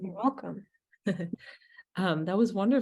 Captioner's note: chuckling